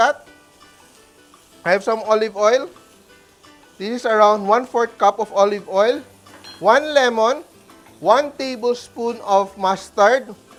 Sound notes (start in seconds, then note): 0.0 sizzles